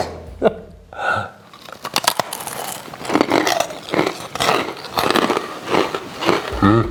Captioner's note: laughter; crunching